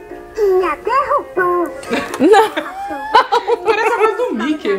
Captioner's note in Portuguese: risos